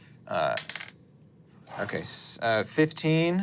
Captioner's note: dice rolling